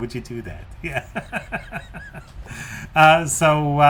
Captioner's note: laughs